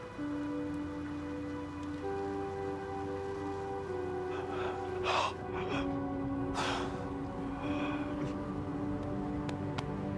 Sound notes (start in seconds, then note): 0.3 gentle music; 4.3 Walter gasping